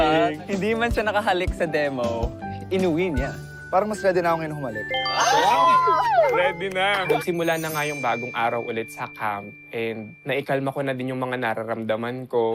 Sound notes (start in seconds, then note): 5.0 giggling